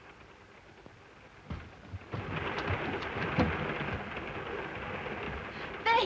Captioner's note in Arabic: صوت خشخشة القطار